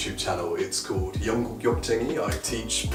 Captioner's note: speaking in foreign language